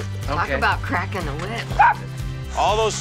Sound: dog barks

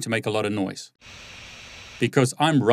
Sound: fan whirling

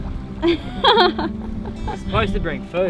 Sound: laughs

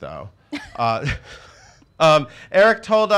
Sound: laughing

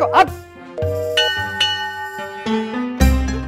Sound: temple bell rings

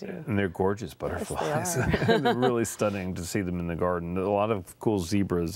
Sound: laughter

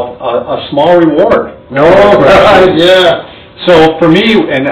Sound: laughs

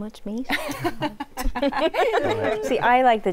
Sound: laughter

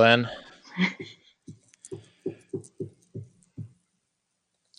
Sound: laughs

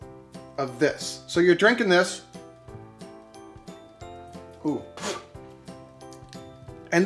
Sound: spits

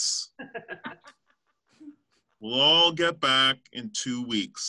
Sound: laughter

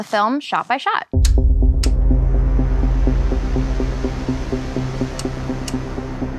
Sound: film reel clicking; intense music

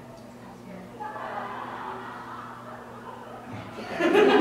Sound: laughter from outside the room; laughter from INSIDE the room

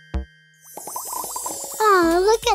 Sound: bubble sounds

